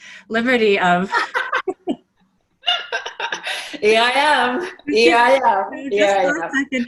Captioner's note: laughing